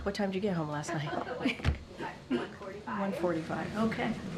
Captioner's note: laughs